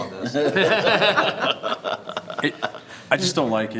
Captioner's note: everyone laughs